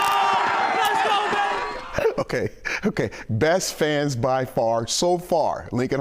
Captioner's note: applause